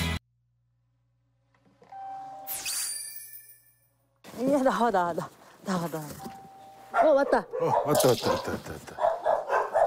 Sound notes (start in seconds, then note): 1.9 ringing the bell